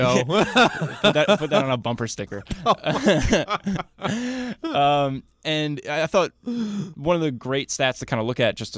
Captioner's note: laughs